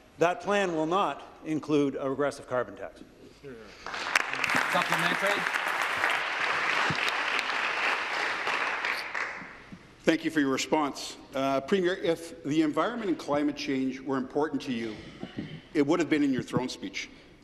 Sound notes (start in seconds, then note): 8.5 applause